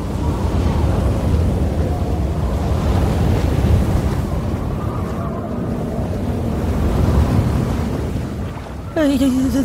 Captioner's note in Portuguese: Som do vento